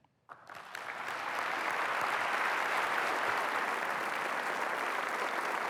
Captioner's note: applause